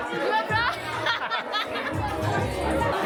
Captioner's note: laughing